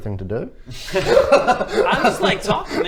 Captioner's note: laughter